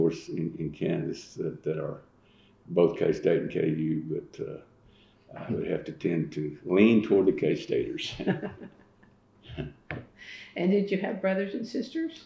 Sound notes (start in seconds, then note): 8.0 laughter